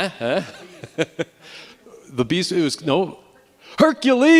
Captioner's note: laughing